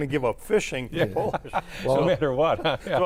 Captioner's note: laughs